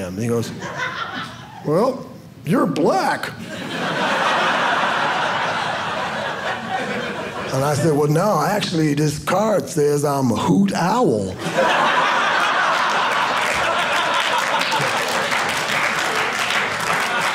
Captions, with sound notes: He goes, well, you're Black. (audience laughing) And I said, "well, no, actually "this card says I'm a hoot owl." (audience laughing) (audience clapping)